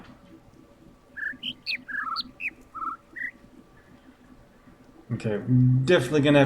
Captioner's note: laughs; sputters; overlapping birds chirping, ˩ ˧ ˥ ˩ ˥